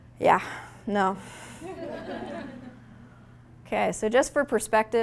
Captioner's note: audience laughing